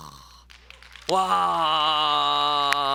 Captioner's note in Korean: 박수 소리